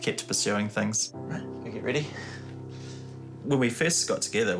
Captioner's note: chuckles